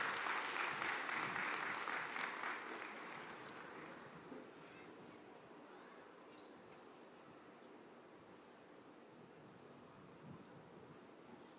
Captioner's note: cheers and applause